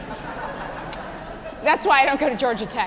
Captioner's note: laughing